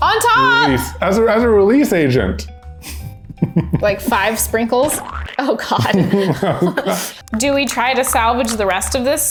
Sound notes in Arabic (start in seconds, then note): 5.4 يضحك